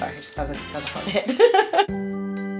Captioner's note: laughs